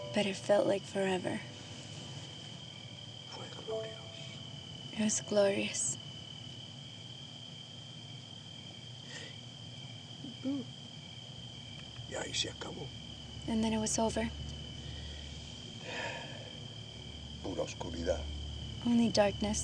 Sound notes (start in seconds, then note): 3.6 spanish; 12.1 speaking spanish; 15.1 speaking spanish; 15.8 sighs